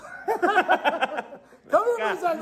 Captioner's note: laughing